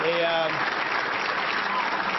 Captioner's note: applause